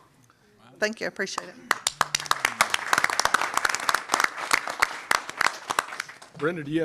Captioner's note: applause